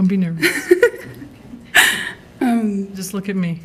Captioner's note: laughing